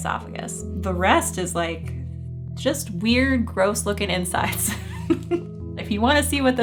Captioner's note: chuckling